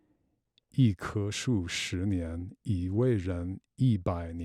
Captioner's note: speaks Chinese